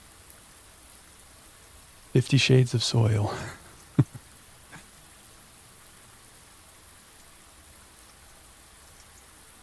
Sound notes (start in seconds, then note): 3.3 chuckles